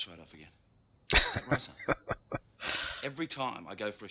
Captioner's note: laughing